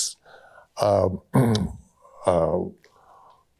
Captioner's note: clears throat